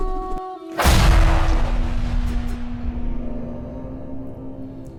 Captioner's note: sword whooshes; explosion booms